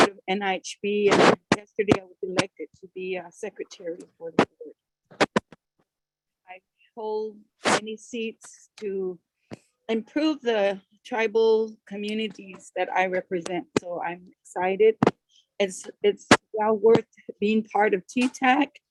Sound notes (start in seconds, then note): 5.0 audio interference; 15.6 audio interference